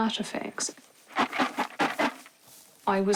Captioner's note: rattles bucket